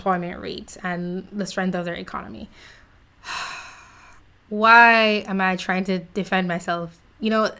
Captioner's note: sigh